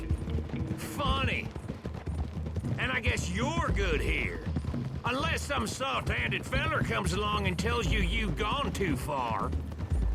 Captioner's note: sarcastic